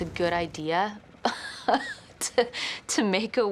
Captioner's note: laughs